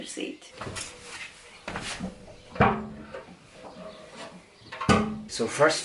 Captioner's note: construction sounds